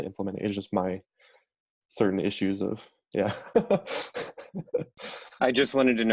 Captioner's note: laughs nervously